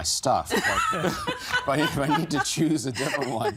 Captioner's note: laughing